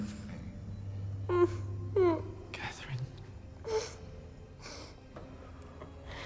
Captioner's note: Catherine crying